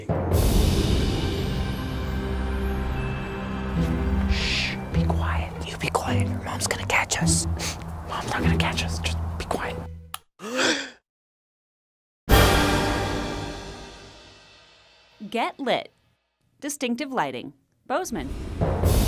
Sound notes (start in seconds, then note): 0.0 soft music; 0.3 wind whooshing; 10.4 both gasping; 12.3 dramatic music